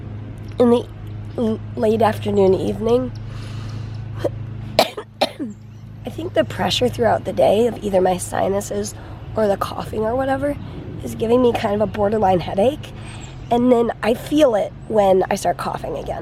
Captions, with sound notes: in the late afternoon, evening [coughing] I think the pressure throughout the day of like either my sinuses or the coughing or whatever is giving me kind of like a borderline headache and then I feel it when I start coughing again